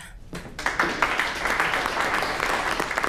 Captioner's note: aplausos